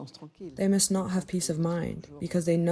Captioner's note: through translator